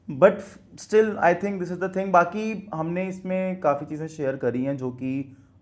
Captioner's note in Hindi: नाक से की जाने वाली आवाज़